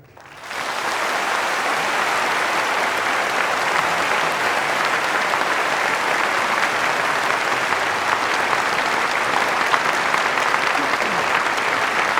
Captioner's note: applause